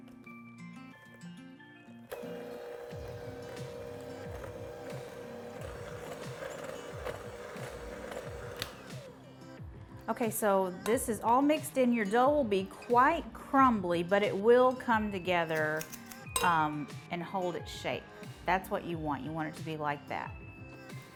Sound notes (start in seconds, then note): 0.3 bright music; 2.1 blender whirring